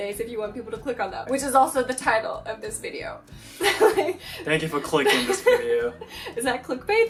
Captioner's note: laughing